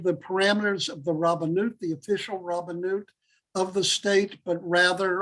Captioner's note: Hebrew